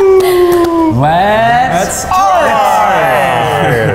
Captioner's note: in Unison